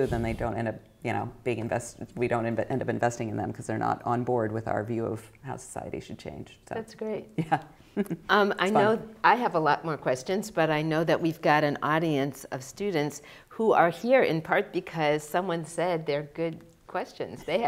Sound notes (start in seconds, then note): 7.9 chuckling